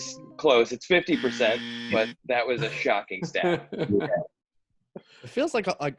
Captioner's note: buzzer sound effect